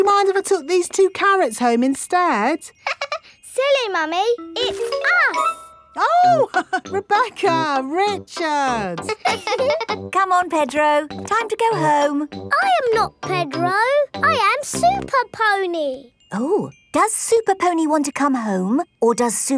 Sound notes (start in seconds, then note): 3.1 laughs; 9.0 both laughing; 9.0 chuckles